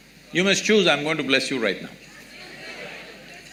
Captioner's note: laughter